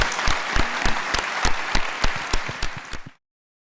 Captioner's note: applause